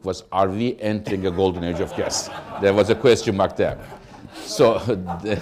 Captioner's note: laughter